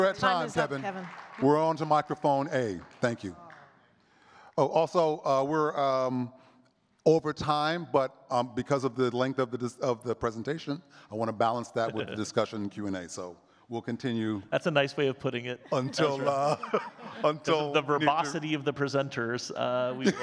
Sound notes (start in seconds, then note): 15.6 chuckles; 19.9 laughing